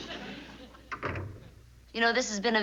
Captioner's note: door closes